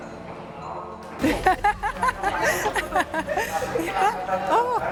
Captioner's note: laughs